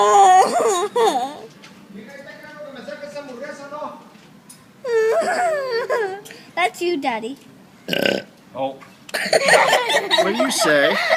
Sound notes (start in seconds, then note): 5.0 sighing laugh; 7.8 huge burp!; 9.2 uproarious laughter